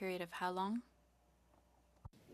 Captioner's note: speaking French